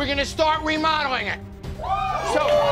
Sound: cheers

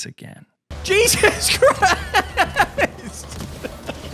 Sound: laughs

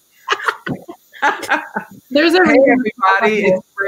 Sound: laughing

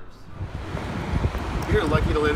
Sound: water whooshing

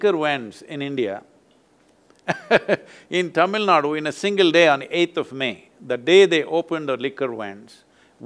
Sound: laughs

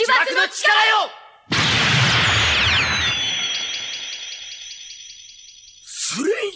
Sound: SFX: spell sound

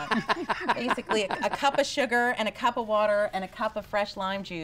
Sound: everyone laughs

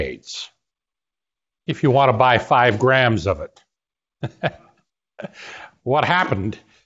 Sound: laughter

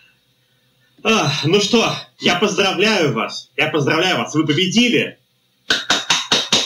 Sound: exhales; applause

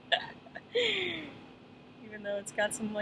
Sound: chuckles

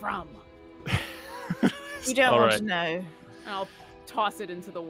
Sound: laughs

